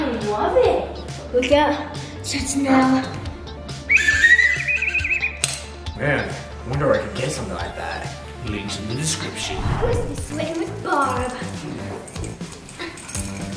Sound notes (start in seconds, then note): 3.8 blowing a whistle